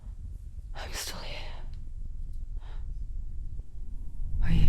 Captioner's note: quiet exhale; whisper